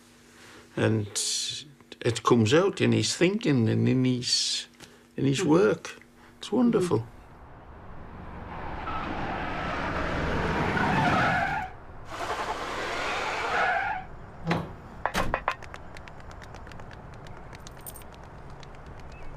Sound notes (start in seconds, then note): 8.2 sound of car driving then screeching to a stop and then backing up; 15.0 footsteps coming down ladder and walking on street; 17.6 coins being exchanged